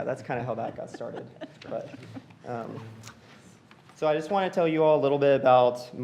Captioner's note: laughter